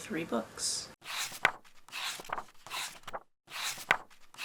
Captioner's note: pages turning